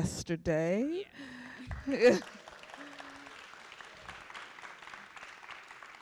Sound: applause

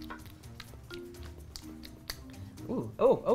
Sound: smacks lips

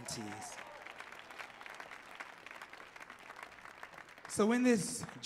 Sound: audience clapping

